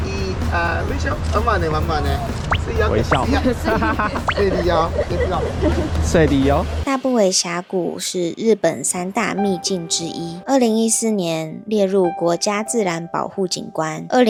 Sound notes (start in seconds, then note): 2.9 Taiwanese